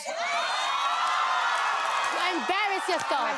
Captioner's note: audience cheering